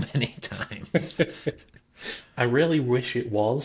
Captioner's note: laughing